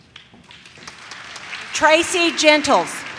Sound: audience claps

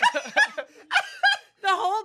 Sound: everyone laughs

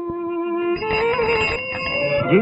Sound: cycle bell rings

